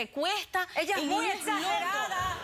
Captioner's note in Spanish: risas